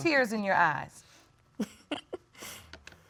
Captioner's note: chuckling